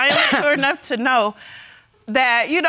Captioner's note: coughs